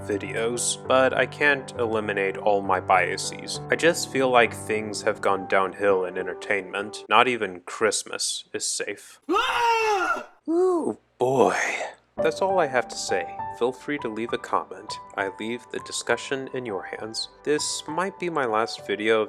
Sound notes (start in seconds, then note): 9.3 scream of Horror; 10.9 in exasperated tone